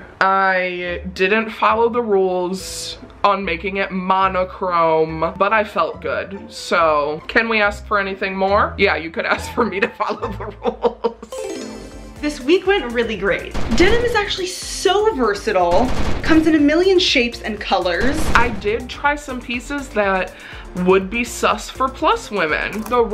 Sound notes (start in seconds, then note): 9.3 laughs